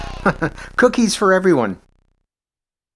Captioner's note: chuckles